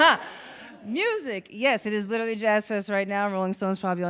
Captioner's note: audience laughs